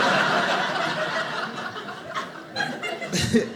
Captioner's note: audience laughing